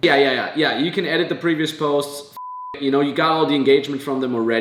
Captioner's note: beep